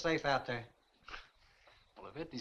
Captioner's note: scoffs